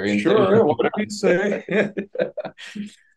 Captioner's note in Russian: смеется